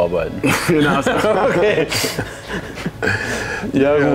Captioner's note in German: lacht